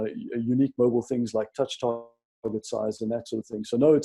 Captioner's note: speaker audio distorts